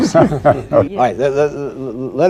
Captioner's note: laughter